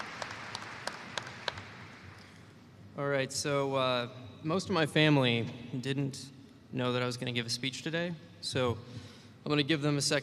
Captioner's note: applause